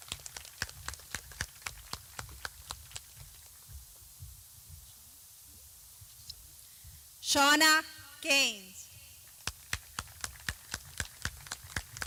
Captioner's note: clapping